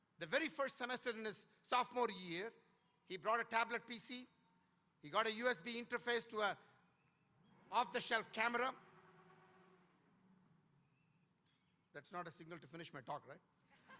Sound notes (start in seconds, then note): 9.0 tone blaring